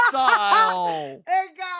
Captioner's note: laughs